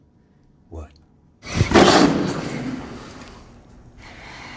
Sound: Otis spitting

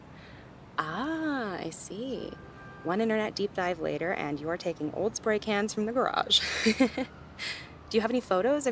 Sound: chuckles

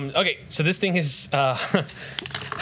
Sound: laughs

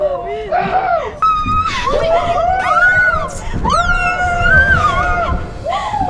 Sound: howling; screams

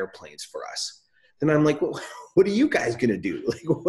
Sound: laughs

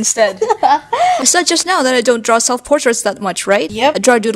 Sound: laughs

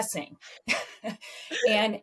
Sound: laughter

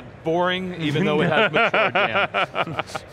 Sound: laughing

